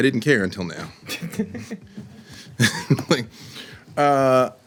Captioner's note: laughter